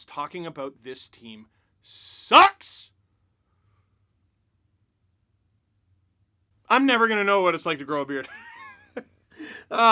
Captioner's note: laughter